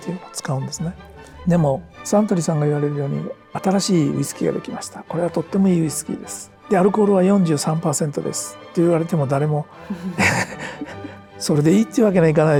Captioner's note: laughs